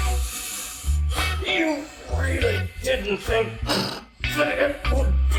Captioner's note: funky music; cough